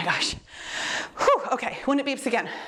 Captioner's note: exhales deeply